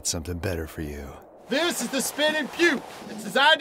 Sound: normal voice

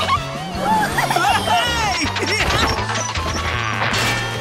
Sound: yelling

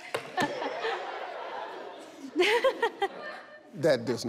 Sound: audience laughs

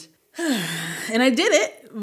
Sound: sighs

